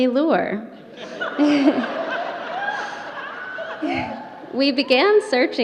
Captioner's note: audience laughter